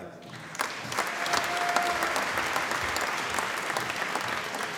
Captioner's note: applause